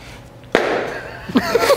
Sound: slap

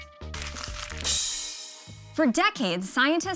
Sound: wrapper crinkles

